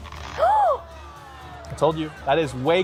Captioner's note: woman gasps